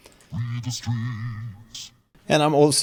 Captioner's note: pitched vocal